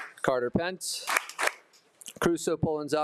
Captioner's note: attendees applauding